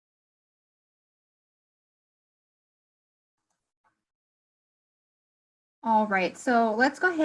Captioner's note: silence